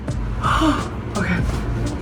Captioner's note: gasps